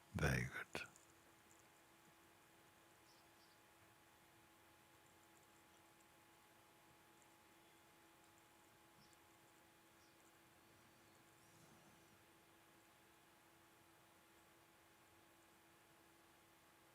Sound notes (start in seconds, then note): 3.1 silence